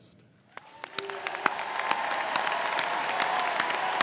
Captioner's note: crowd clapping